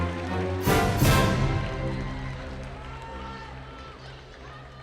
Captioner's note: audience cheering